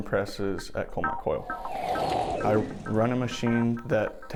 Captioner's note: logo whooshes